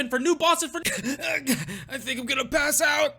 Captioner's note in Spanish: cough.mp3